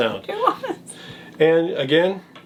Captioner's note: laughs